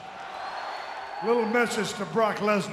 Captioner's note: audience cheering